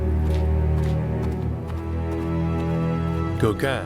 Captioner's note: footsteps sound in the distance